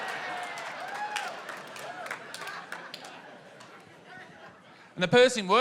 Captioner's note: audience laughs; applause